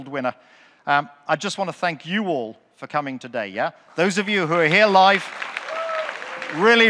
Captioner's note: audience clapping, cheering